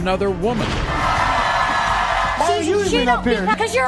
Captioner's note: audience cheering